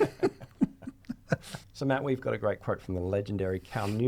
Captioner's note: laughing